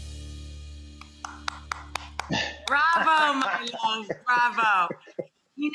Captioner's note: clapping